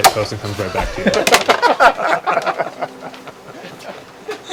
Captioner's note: laughter